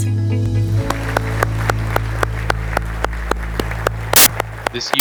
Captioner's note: audience applauds